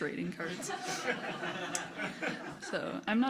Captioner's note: crowd laughing